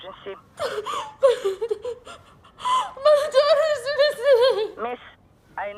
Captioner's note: sobbing